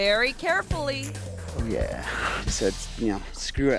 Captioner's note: mouth clicks